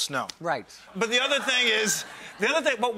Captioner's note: crowd laughs